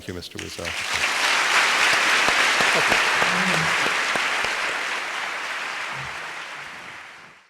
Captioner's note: applause